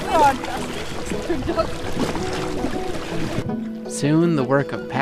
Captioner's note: water splashing